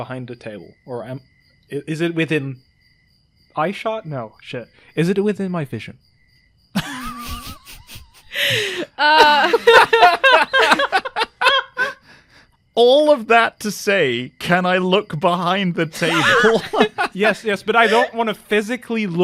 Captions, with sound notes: behind the table? Or am... is it within eyeshot? No, shit. Is it within my vision? [Laughter] All of that to say, "can I look behind the table?" [More laughter] Yes, yes, but I don't wanna physically